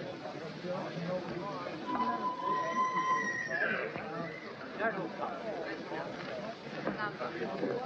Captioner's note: whistle blows; horses whinny